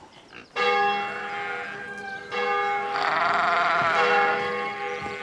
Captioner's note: church bell tolling